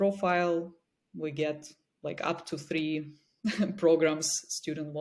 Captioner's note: chuckles